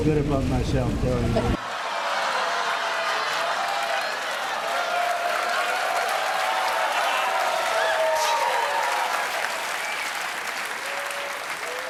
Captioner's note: laughter; applause